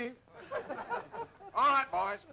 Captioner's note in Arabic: الرجال يضحكون